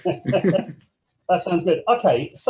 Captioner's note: laughing